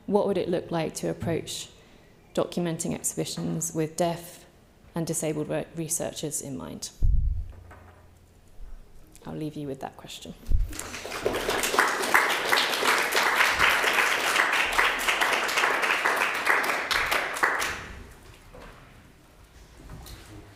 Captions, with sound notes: What would it look like to approach documenting exhibitions with deaf and disabled work researchers in mind? I'll leave you with that question. (audience applauds)